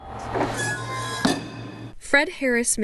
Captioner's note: press screeches